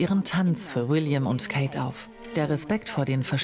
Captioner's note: speaking in foreign language